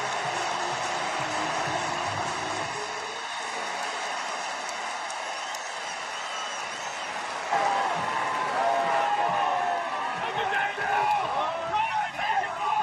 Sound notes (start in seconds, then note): 0.0 cheering